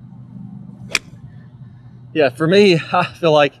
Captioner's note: club smacks ball